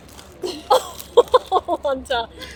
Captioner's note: laughing